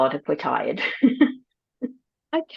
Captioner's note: laughs